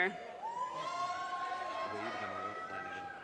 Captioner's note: audience cheers and applause